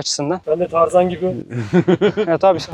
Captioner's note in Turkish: kahkaha